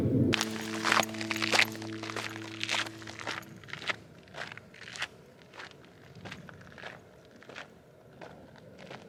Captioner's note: footsteps